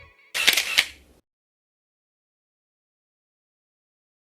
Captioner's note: camera snaps